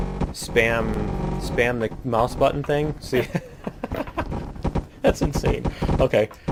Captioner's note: laughs